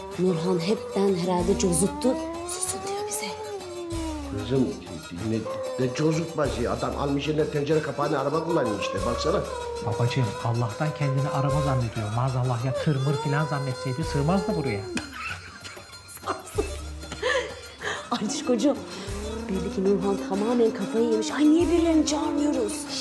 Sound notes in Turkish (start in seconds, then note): 16.0 Rüyam gülme sesi